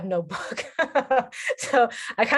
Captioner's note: laughs